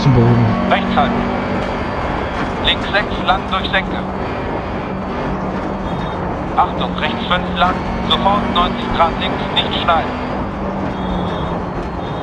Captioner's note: engine sounds and co-pilot's instructions